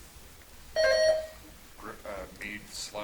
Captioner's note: buzzer chimes